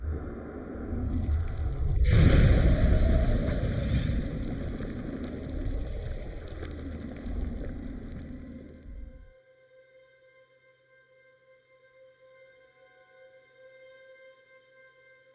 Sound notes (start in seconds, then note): 0.3 air whooshing; 1.3 air squishing; 2.1 dramatic music; 2.1 wind blowing; 6.6 ominous music